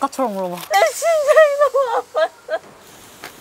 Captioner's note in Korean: 엉엉